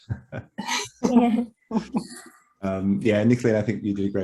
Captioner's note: chuckles; group chuckles